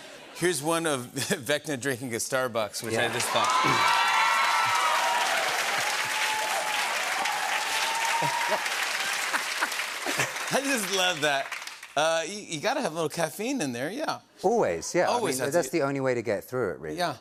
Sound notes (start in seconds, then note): 3.9 cheers and applause; 9.0 laughs